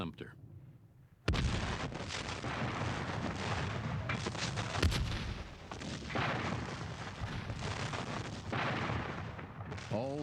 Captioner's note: sustained, heavy cannon fire